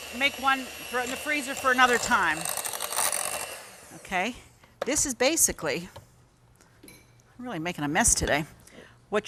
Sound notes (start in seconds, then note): 2.6 blender machine roaring